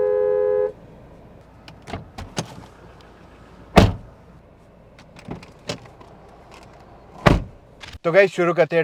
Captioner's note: door Thud